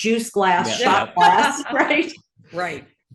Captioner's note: laugh